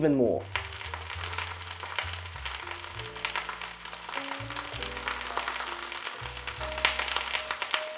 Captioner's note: sizzling sound